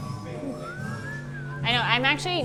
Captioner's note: whistling